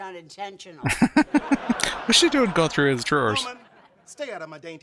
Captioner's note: chuckling